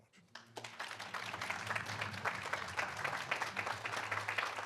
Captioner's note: audience applauding